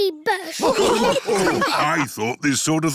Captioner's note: snorts; all laughing